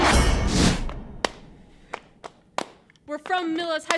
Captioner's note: clapping a beat